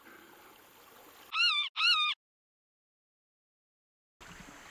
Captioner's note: crows cawing